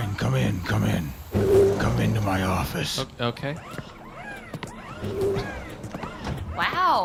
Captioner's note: the door scrapes open